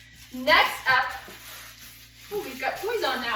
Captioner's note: rustles